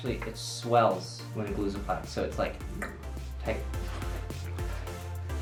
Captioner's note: clicks tongue